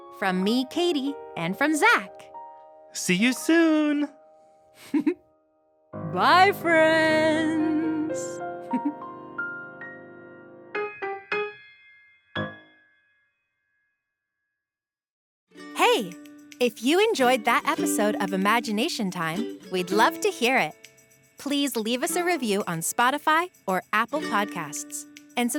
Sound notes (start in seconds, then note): 8.3 giggles; 10.6 soft piano music